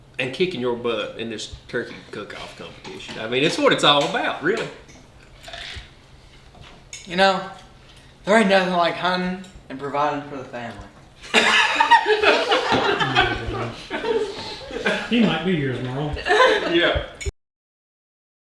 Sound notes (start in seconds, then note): 11.3 everyone laughs